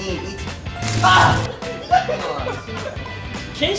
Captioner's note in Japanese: 電流の効果音